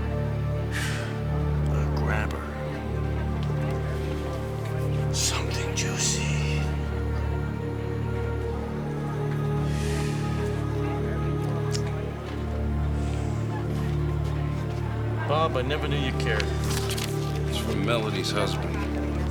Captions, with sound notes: (sighs) A grabber. Something juicy. Bob, I never knew you cared. - It's from Melody's husband.